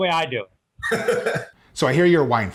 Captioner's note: laughing